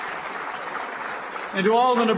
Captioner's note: applause